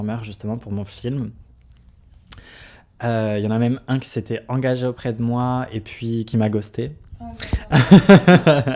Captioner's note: laughs